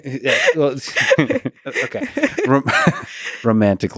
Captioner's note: laughing; laughs